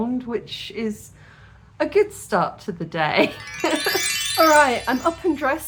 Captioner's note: magic wand sound